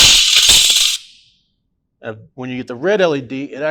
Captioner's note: alarm sounding